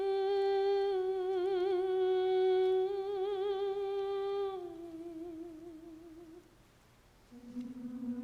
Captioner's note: singer humming